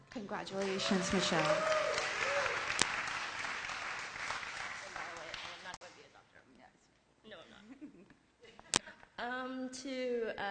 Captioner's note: applause